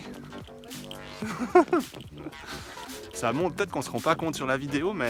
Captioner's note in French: rires